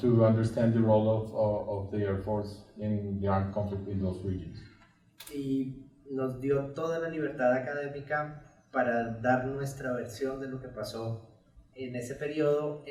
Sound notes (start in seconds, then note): 6.4 speaks in Spanish